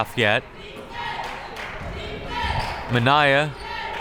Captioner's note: crowd members chanting